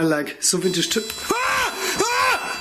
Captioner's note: beeping; screaming